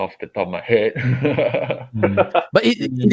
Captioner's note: laughs